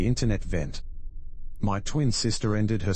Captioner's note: electrical noise